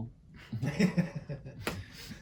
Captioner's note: laughs